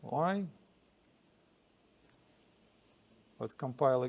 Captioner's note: pause